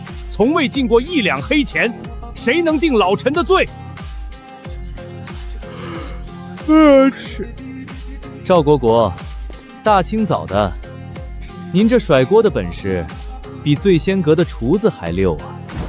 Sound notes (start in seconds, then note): 5.5 yawn